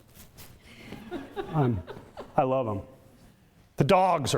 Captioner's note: audience laughter